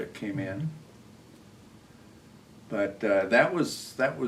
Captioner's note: none